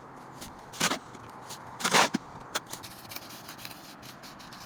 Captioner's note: cement scratching